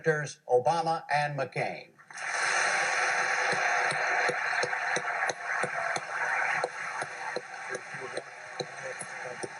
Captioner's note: applause